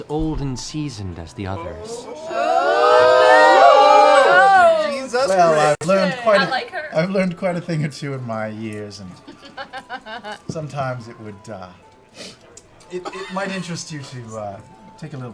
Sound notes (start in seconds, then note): 3.1 jeering and laughter